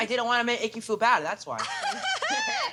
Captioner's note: laughs